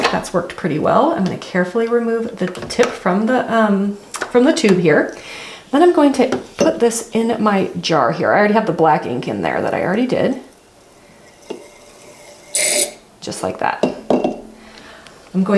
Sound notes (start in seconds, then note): 10.7 ink spurts out of syringe; 13.8 syringe taps jar